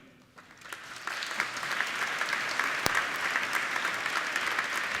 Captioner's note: applauding